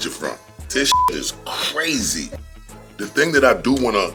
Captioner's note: beep